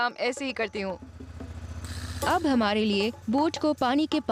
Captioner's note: narrating